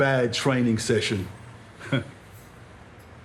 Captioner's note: he chuckles